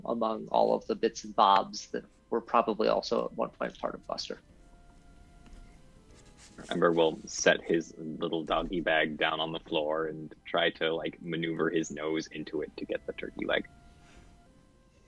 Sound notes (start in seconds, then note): none